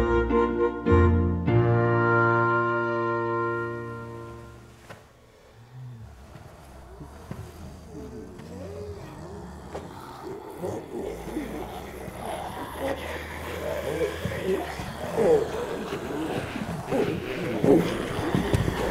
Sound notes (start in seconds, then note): 4.3 music stops; 8.9 growling